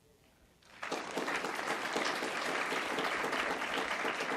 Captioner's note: audience applauds